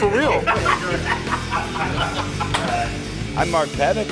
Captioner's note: group laughs